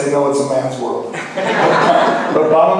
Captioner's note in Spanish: laughs